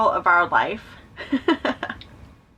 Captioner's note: chuckles